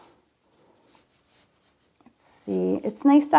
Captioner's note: marker scratching